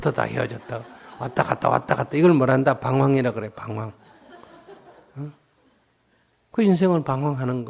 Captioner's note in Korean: 청중 웃음